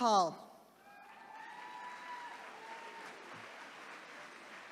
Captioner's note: attendees cheering